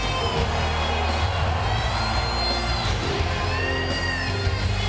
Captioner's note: crowd cheering